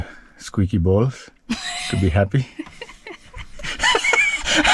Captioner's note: laughs